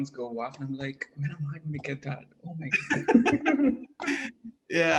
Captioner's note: laugh